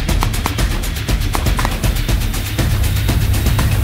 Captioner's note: upbeat music; pistol firing